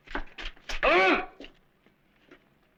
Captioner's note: non-english speech